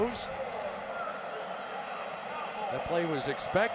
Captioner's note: pa announcement